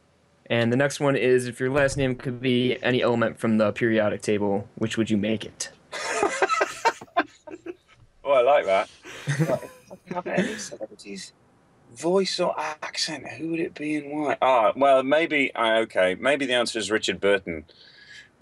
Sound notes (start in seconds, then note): 8.6 laughs